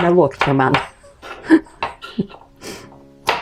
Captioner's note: laughs in Lithuanian